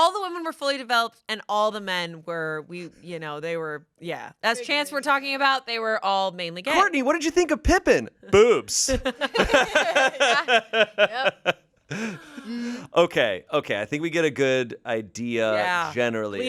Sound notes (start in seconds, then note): 8.8 everyone laughs